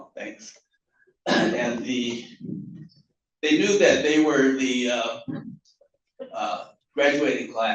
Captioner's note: cough